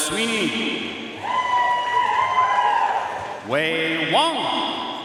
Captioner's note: audience cheering and applauding